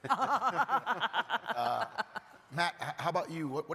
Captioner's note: panelist laughing